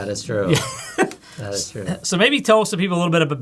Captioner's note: chuckles